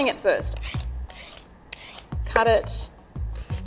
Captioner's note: peeler grinding on daikon